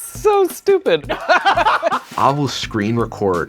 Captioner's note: laughter